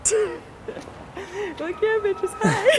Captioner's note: laughs